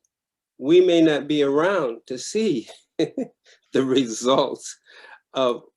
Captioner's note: laughs